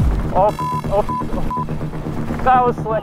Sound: beep

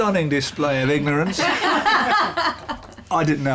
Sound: laughter

